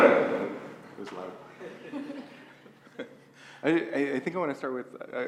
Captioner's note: laugh